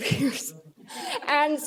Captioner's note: laughs